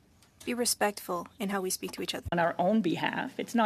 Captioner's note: speaking French